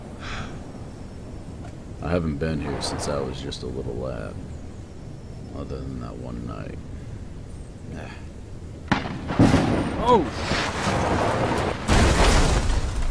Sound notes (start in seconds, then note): 0.1 sighs; 8.8 crack of thunder; 11.6 crash